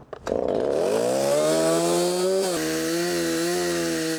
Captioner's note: chainsaw buzzing